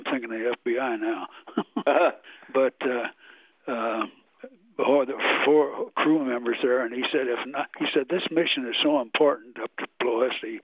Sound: laughs

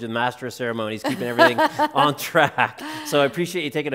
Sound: laughs

